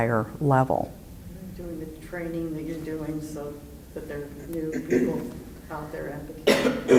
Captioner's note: clearing throat in background